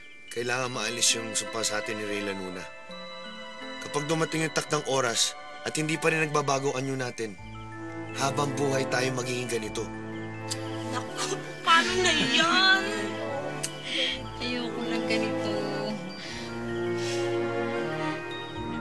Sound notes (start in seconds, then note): 10.3 clicks tongue; 16.0 whimpers